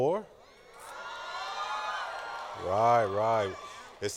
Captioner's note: cheering